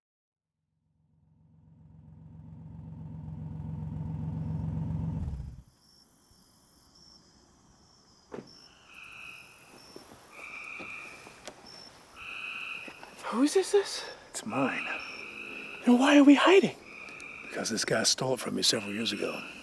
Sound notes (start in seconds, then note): 5.0 crickets chirping